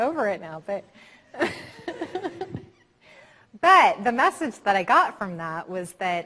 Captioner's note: laughing